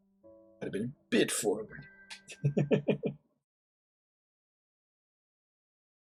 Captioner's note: chuckles